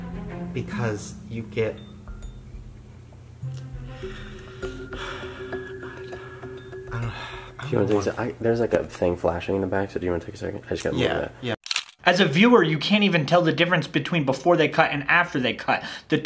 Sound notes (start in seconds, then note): 3.5 sighs; 11.6 camera shutter snapping